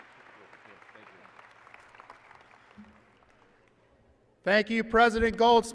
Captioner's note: applause